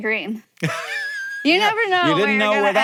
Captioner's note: Hank laughs